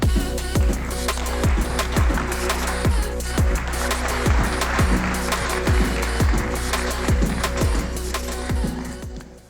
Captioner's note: applause